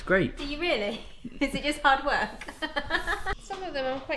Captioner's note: laughs